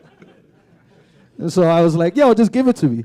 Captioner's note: laughter